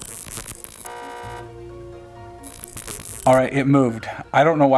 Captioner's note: digital buzzing and horn honking